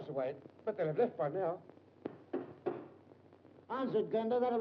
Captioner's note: knocking on door